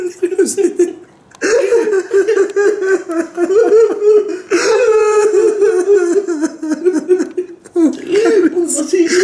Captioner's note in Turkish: ağlamalar ve Mert'in ağzında patatesle ağlamaya çalışması